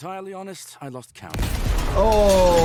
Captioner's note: explosion booming